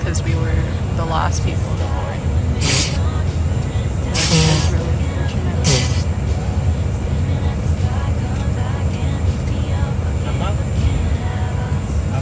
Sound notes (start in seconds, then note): 5.6 aggressive nose blowing behind us